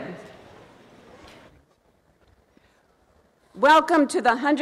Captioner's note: crowd murmurs